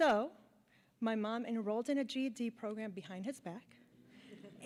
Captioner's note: laughter